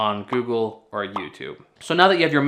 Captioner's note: bubble pops